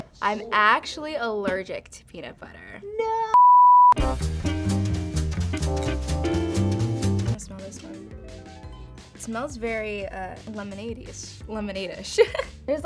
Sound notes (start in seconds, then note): 3.4 loud beeping; 4.1 upbeat music